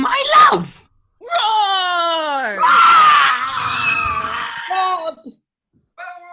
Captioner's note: roaring